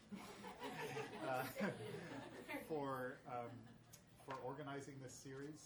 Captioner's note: audience laughing